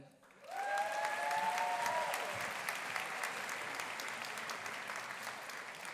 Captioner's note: audience applauding; audience cheering